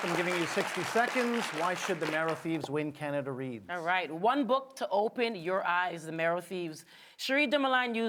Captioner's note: applause